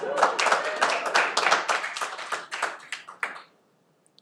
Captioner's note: cheering